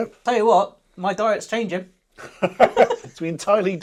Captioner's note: both laughing